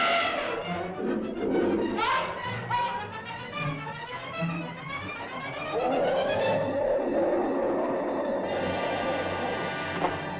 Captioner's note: suspenseful music; mastodon grunts and growls; suspenseful music